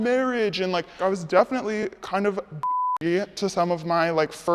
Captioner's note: beep